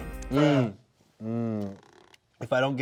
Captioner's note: distorted Voice